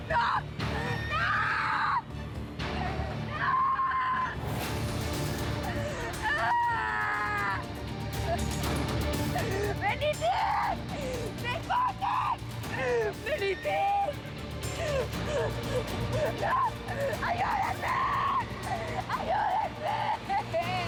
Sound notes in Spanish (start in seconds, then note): 14.6 Sollozos